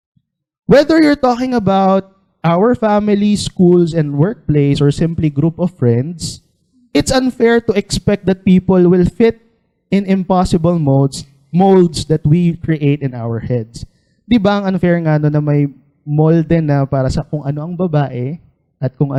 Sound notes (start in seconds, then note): none